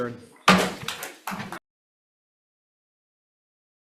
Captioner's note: gavel banging